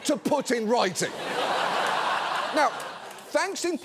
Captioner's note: audience laughs